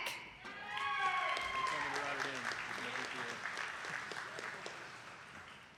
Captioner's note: attendees clapping